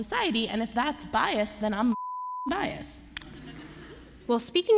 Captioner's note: laughter